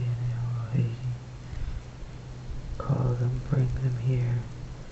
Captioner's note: foregin language